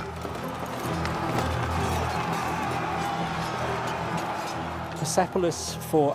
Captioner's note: soldiers clamor